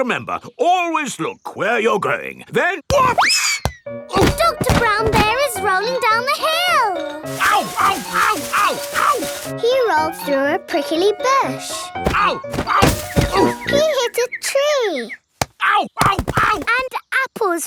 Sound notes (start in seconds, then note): none